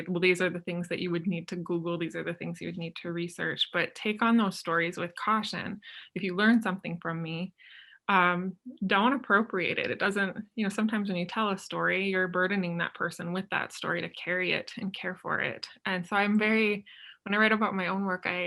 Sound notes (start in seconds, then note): none